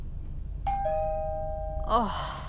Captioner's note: Doorbell ringing